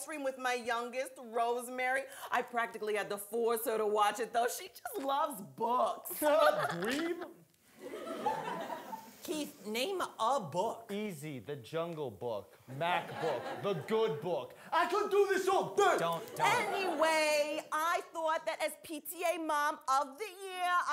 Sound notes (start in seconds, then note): 7.8 audience laughing